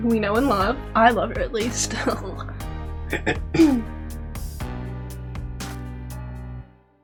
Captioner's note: clears throat